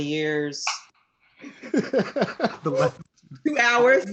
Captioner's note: laughs